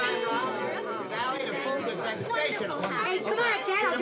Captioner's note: all chattering